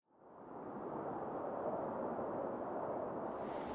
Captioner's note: wind blowing